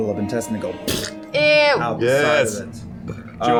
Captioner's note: splurting noise